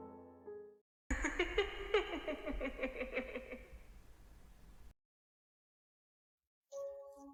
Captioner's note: laughs